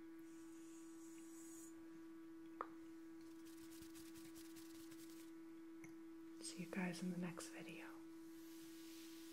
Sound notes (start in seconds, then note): 3.3 finger Rubbing